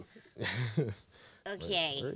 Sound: man chuckling

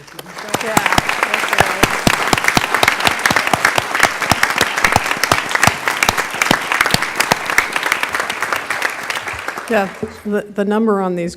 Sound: applause

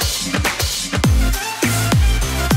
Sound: clap

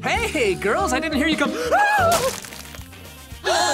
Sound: shrieks; gasping

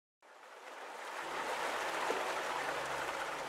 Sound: running water

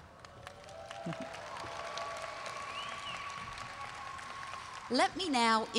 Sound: audience cheering and applauding

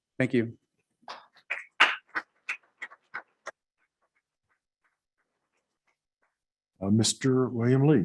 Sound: scattered applause

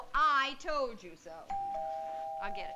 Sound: doorbell rings

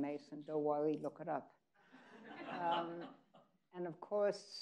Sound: people laughing

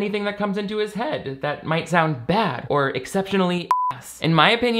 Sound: beep

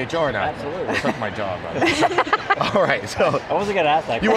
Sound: laughs

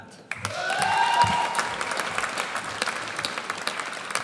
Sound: audience cheers

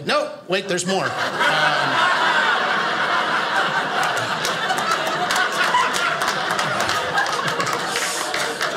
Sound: audience laughing

